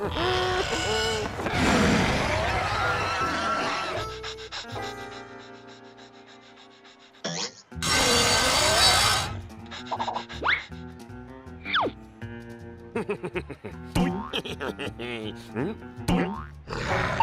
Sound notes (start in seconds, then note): 1.9 rabbits snarling; 3.6 panting; 7.8 buzz saw grinding; 9.3 panting; 12.9 laughing